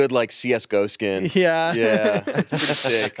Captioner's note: laughs